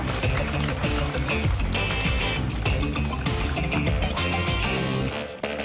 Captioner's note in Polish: oklaski